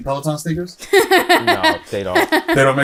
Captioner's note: laughs